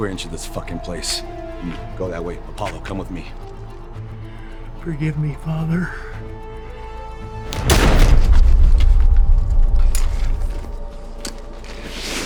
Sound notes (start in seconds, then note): 7.5 gun fires; 8.8 dramatic music